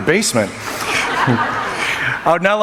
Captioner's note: laughing